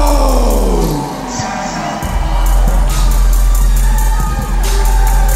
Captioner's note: crowd cheers and jeers